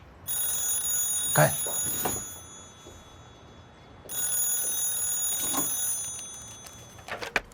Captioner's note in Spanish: Suena el teléfono